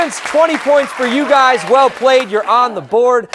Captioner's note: cheers and applause